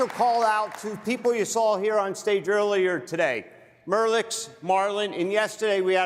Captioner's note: applause